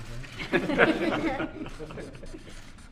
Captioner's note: laughter